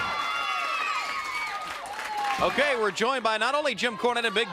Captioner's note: crowd cheering